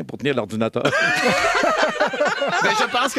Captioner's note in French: rires